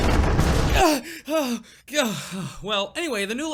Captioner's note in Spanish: respirando